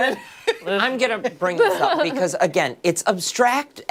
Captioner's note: laughter